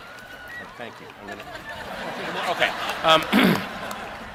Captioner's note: chuckles